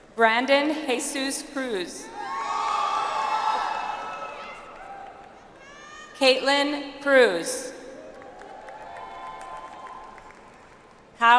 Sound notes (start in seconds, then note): 2.3 audience applauds; 8.0 audience applauds